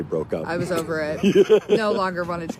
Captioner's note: laughs